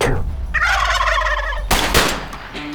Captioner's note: turkeys gobbling; gunshots